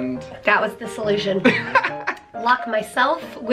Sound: laughing

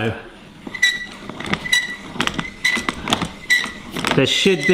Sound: grinder squeaking

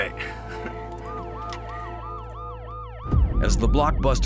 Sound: siren wailing

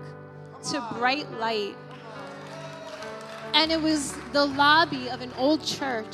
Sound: audience cheering

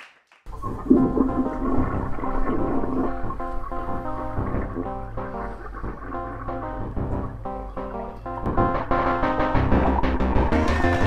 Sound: toilet flush; game noises; cheering and applause; game noises; toilet flush; cheering and applauding; game noises

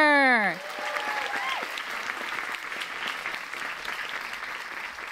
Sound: audience applauds

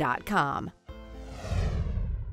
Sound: whooshing

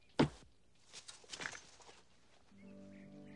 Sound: hitting; slow orchestral music

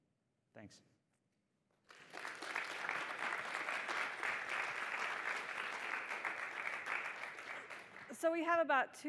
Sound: applause

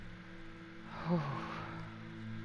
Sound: sigh of relief

